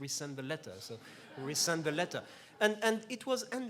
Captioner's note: laughs